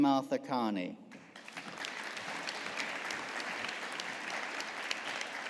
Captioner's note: audience applauding